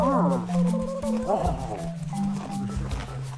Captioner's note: bird warbles